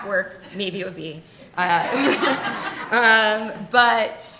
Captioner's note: laughing